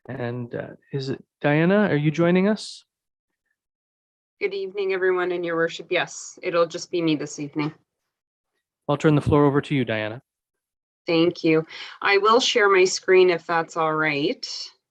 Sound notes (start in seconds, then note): none